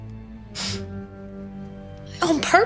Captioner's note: scoffs